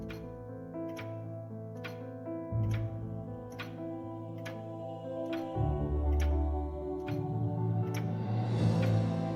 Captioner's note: clock ticking